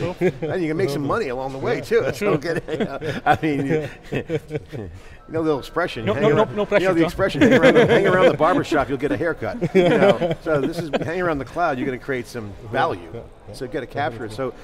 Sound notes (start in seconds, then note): 7.2 laughs